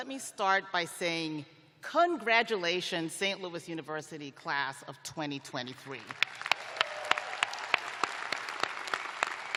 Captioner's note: applause